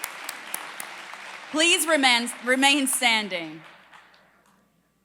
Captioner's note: applause